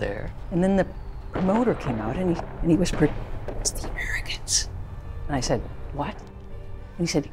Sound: whispering

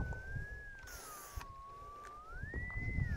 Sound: paint spraying

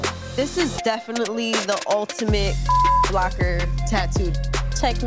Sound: beeping

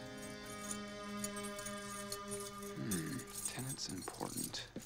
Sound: <i> keys jingling</i>

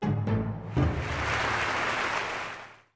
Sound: light music; audience applauding

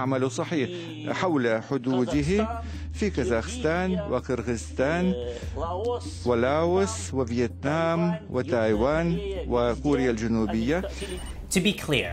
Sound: speaking foreign language

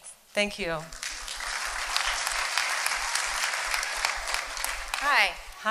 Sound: applause

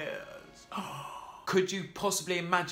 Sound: gasping

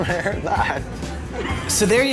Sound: laughs

